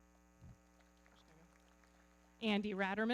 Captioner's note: everybody clapping